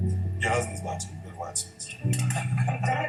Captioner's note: laughs